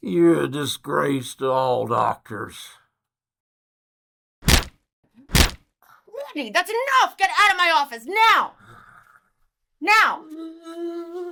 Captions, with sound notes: You're a disgrace to all doctors. (slapping sounds) That's enough! Get out of my office! Now! (sigh) Now!